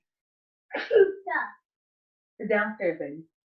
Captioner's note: child sneezing